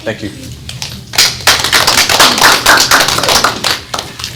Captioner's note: applause